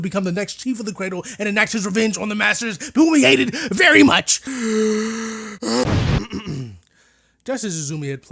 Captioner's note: inhale